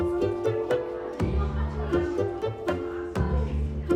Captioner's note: distant chatter